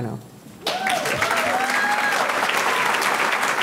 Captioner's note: audience cheering; audience clapping